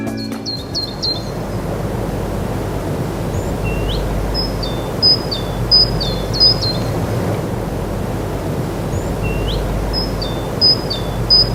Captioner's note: sound of bird chirping